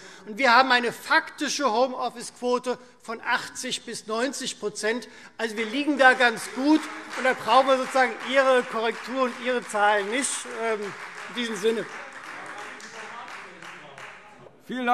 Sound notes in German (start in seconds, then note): 6.6 Beifall Freie Demokraten; 11.7 Beifall Freie Demokraten